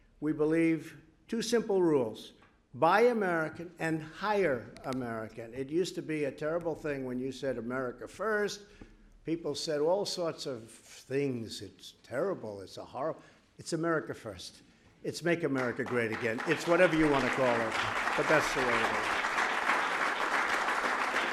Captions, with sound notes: We believe two simple rules: Buy American and Hire American. It used to be a terrible thing when you said “America first.” People said all sorts of things: “It’s terrible. It’s a horror.” It’s “America First.” It’s “Make America Great Again.” (applause) It’s whatever you want to call it, but that’s the way it is.